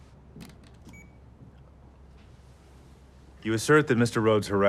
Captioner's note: camera beeps